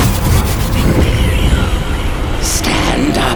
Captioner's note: echoes saying "imperio"